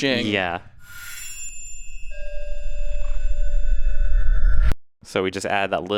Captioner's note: metal shings